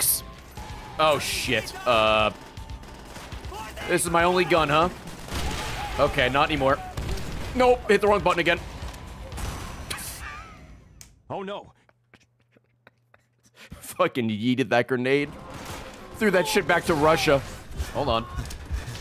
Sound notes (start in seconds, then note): 11.7 laughs